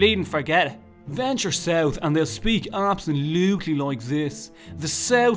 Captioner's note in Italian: Accento di Dublino Sud